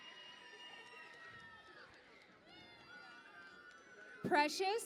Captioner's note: cheering and Applause